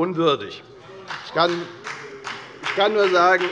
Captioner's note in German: Beifall bei der FDP